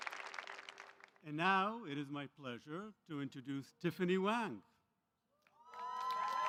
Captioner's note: applause